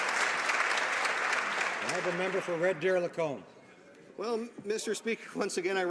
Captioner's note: some Applause